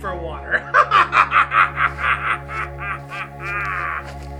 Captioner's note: צוחק